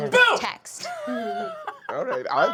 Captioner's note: laughing